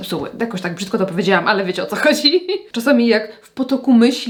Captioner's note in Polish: śmiech